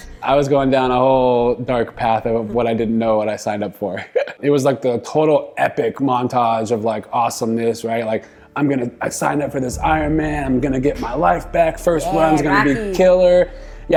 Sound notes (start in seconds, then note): 4.0 chuckling